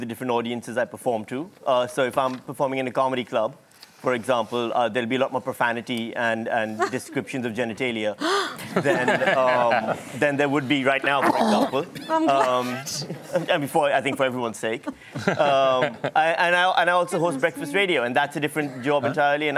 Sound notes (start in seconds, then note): 8.6 laughter; 12.2 laughs